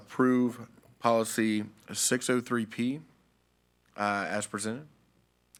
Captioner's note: none